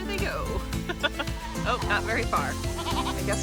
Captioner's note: laugh